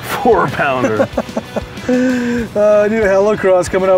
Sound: laughing

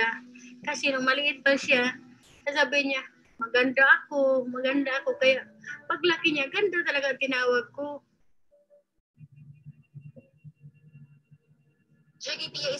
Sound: speaking in foreign language

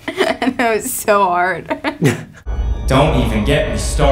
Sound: laughs; Wyatt laughs

